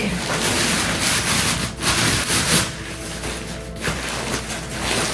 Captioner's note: tent rustling